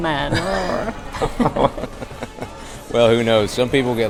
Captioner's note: laughs